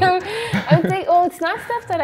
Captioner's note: laughs